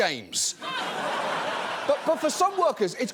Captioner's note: audience laughing